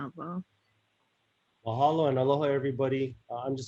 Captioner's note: speaks in native language